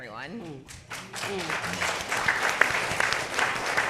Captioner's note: audience clapping